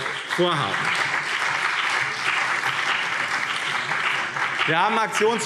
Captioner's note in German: Beifall BÜNDNIS 90/DIE GRÜNEN und CDU